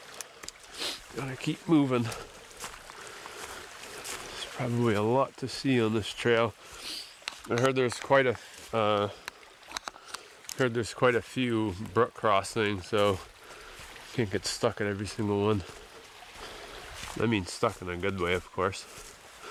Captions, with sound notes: Gotta keep moving. There's probably a lot to see on this trail. I heard there was a uh [clicks] heard there's quite a few brook crossings, so I can't get stuck at every single one. I mean stuck in a good way, of course.